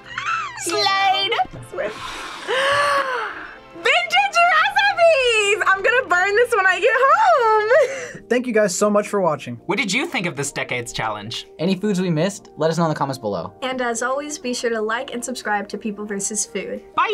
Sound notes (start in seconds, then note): 0.1 squeaks; 1.8 gasps; 6.8 laughs